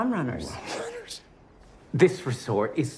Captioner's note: scoffs